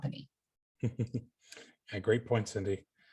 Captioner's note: chuckling